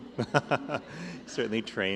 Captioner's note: laughter